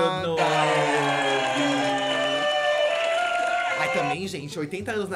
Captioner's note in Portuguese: aplausos